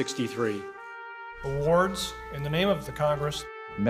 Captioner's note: voiceover